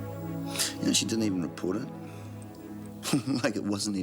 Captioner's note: laughs